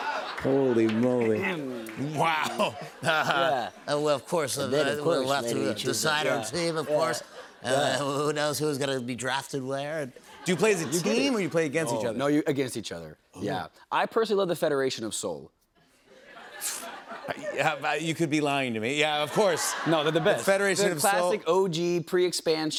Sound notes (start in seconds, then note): 3.9 nasally voice; 9.9 normal voice; 16.1 laughter